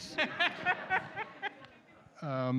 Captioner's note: laughter